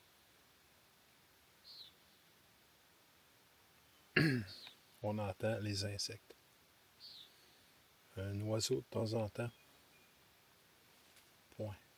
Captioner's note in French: raclement de gorge